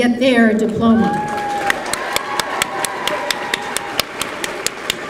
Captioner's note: applause